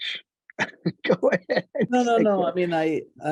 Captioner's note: laughs